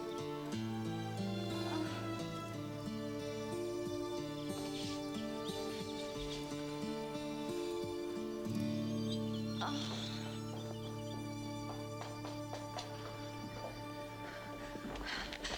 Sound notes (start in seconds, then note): 9.6 Jessie moaning